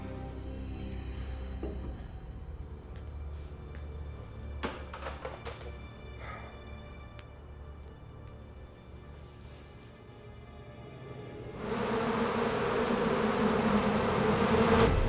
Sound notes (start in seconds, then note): 6.1 sighs; 11.5 buzzing